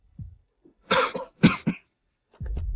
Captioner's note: cough